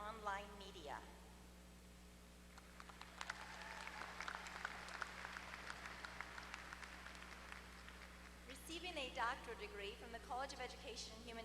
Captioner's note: applause